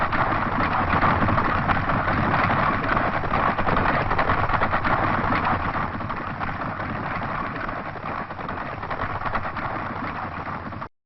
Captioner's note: applause